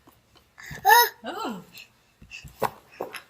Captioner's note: baby chattering